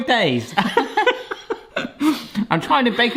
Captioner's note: both laughing